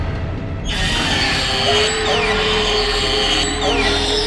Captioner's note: tense music rising; Pickman screeching